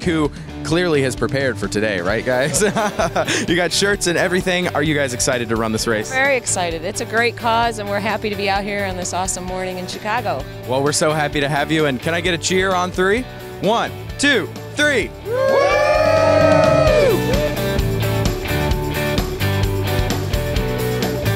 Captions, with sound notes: who clearly has prepared for today. Right guys? (laughing) You got shirts and everything. Are you guys excited to run this race? - Very excited. It's a great cause and we are happy to be out here on this awesome morning in Chicago. - Well we are so happy to have you, and can I get a cheer on three? One, two, three. (all cheering) (upbeat pop music)